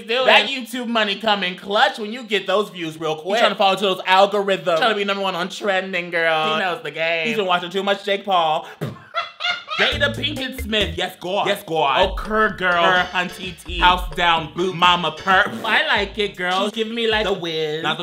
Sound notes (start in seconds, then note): 8.7 laughs; 15.4 spits